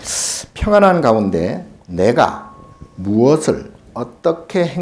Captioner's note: speaking Korean